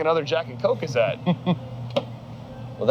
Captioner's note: laughs